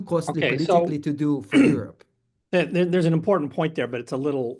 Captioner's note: cough